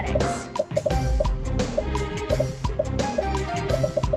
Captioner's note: popping